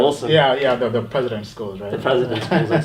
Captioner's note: laughs